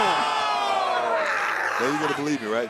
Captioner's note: Jacy screaming